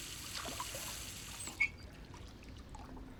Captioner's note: water stops